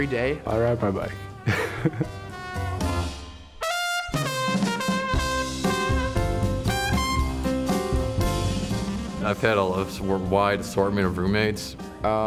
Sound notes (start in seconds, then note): 1.4 laughs; 3.2 trombone music